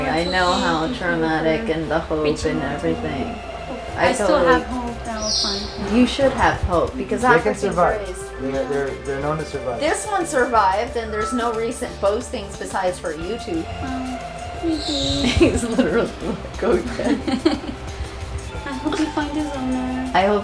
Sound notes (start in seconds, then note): 14.3 speaks softly; 16.9 laughs